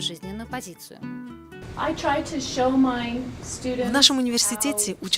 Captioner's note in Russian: английская речь